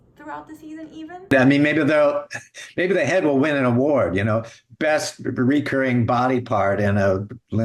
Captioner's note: laughs